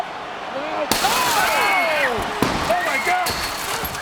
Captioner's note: glass shattering